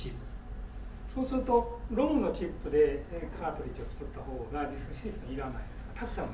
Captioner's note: speaking in foreign language